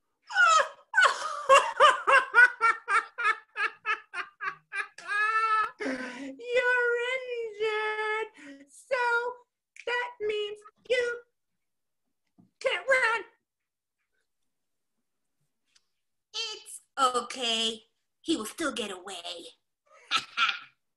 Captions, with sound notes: Oh! [evil laughing] You're injured! [mocking] so that means you can't run! It's ok. He will still get away. Ha ha!